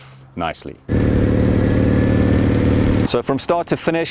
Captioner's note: engine roars